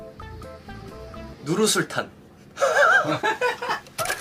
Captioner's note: laughs to hide the lie